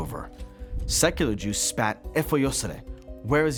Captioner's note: speaking Hebrew